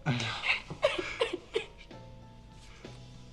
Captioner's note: crying